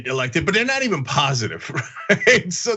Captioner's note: laugh